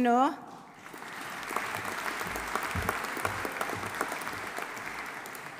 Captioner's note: audience applauding